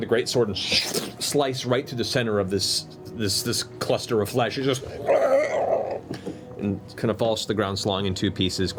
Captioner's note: burbling